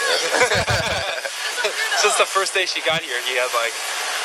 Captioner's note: laugh